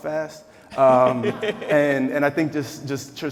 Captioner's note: laughing